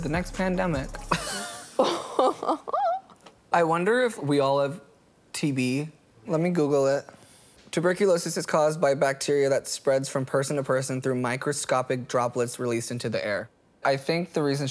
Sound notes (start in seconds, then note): 2.9 laughing